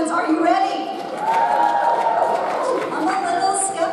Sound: audience cheers

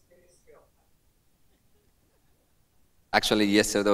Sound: woman speaks off camera

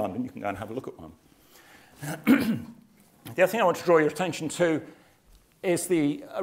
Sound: cough

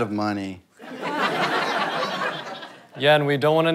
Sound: audience laughter

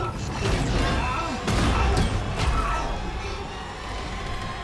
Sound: Isaac screaming; Isaac thuds

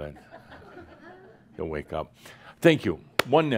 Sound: a few chuckles

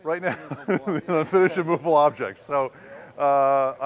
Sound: laughter

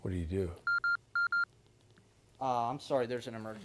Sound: beeper beeps

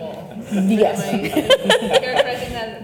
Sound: laughs

